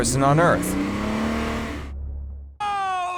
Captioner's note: motor engine roaring